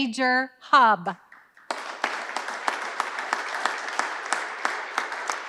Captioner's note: audience applauding